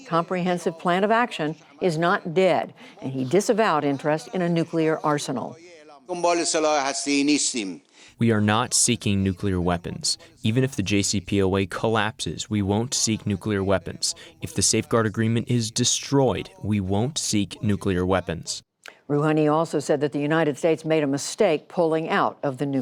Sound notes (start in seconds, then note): 7.3 through translator